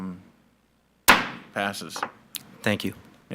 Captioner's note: gavel bangs